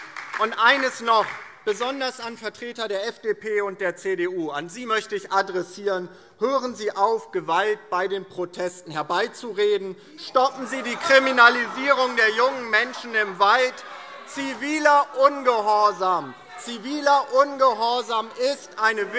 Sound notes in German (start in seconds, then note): 10.3 Lachen CDU und Freie Demokraten; 13.8 Zurufe CDU und Freie Demokraten